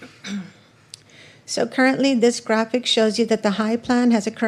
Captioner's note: clears throat